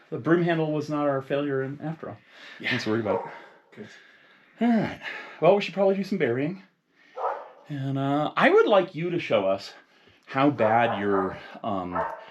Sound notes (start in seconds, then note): 7.1 dog barking